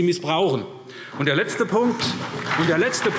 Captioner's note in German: Beifall SPD und DIE LINKE